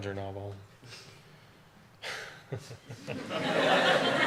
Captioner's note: audience laughter